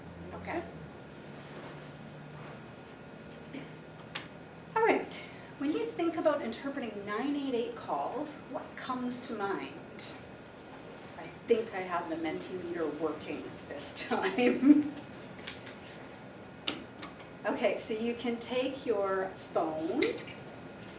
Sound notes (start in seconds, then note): 16.3 laughs